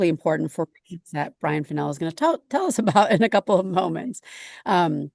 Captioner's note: laughs